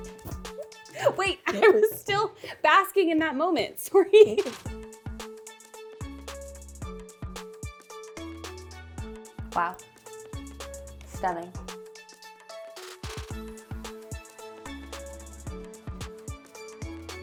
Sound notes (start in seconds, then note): 0.9 giggles; 4.2 upbeat pop music continues; 4.4 laughs; 12.5 upbeat pop music continues